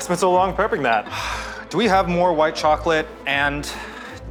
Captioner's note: sighs